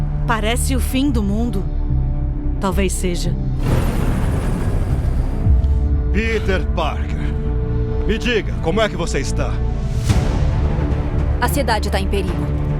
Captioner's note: foreign language